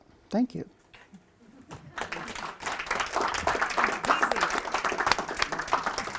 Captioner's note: applause